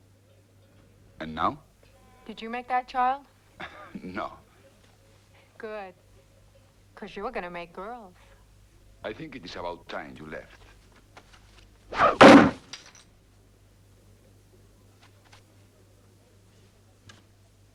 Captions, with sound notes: - And now? - Did you make that child? - (Chuckles) No. - Good, 'cause you're gonna make girls. - I think it is about time you left. (Knife thuds)